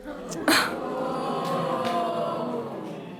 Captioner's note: audience jeering